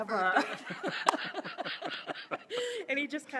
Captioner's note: laughing